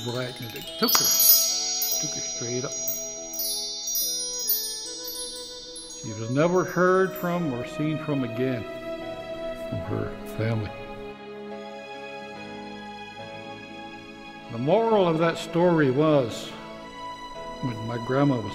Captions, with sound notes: and it took her. It took her straight up. (twinkling noises) She was never heard from or seen from again from her family. The moral of that story was, when my grandma was done telling us the story,